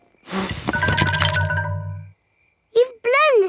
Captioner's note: blowing